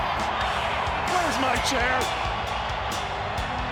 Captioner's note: crowd cheering